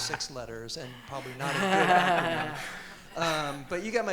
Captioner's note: audience and panel laughing